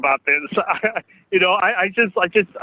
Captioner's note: laughs